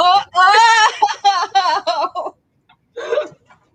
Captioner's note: laughing